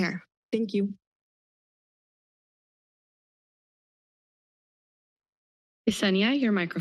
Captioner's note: silence